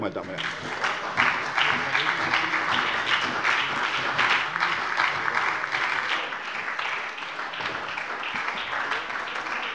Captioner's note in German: Beifall bei der SPD